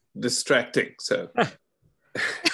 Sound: chuckle

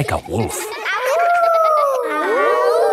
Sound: howling; kids howling

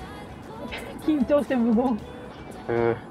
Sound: laughs

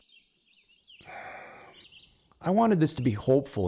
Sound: sighs

